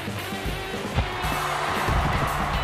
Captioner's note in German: Flotte Rockmusik; Jubel